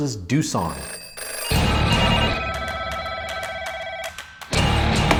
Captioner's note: phone ringing; energetic music